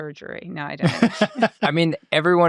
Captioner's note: laughing